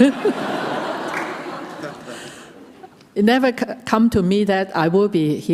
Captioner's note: laughter